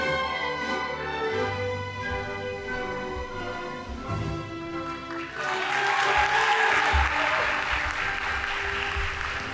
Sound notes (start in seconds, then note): 4.9 audience applauding